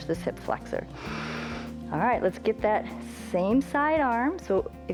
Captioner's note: inhales